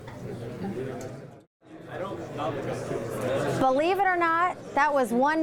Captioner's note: audience chattering